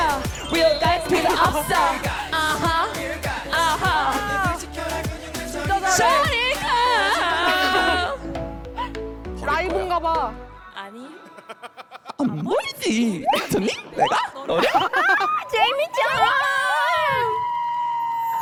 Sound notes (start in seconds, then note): 2.9 cheering won’t stop